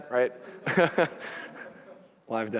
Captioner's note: laughter